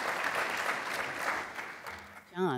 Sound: applause

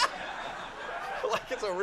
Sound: Howie laughing

